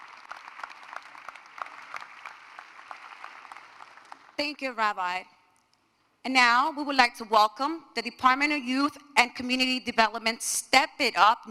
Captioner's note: applause